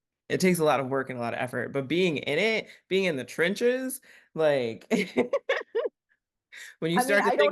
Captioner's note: giggles